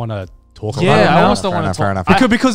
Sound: group chattering

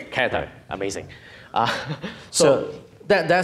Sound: laughing

